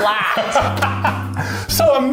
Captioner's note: laughs